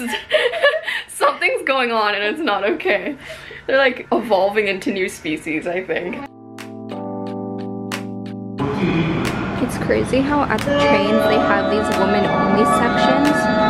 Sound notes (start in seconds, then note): 6.2 gentle music; 8.6 train station announcements